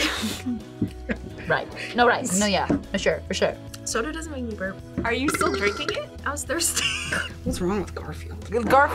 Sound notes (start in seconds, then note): 0.2 laughs; 6.9 burps; 7.0 laughs